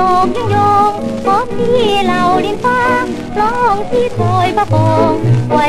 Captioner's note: bee